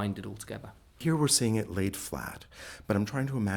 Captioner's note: voiceover